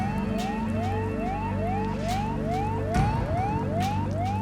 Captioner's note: alarm sounding